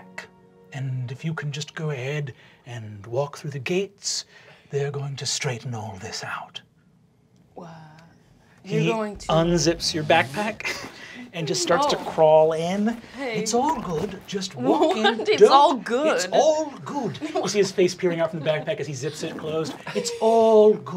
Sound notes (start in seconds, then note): 10.4 chuckles